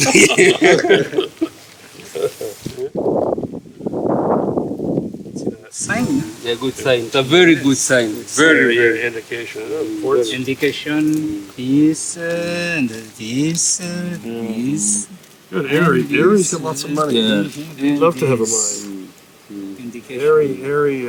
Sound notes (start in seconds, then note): 0.0 nervous laughter; 2.9 even more furious wind noise